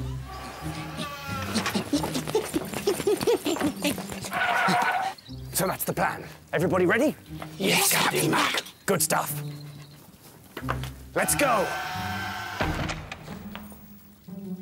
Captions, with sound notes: [Creak...] [Excited Mayor noises!] So that's the plan. Everybody ready? Yes, Captain Mack! Good stuff. Let's go! [Creak...]